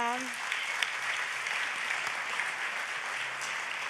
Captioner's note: audience applauds